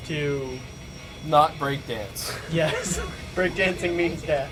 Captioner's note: chuckling